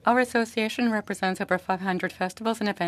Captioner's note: speaking French